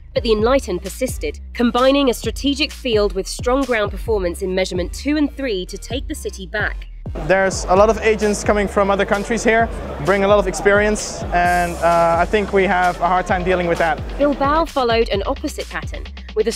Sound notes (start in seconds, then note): 7.3 voiceover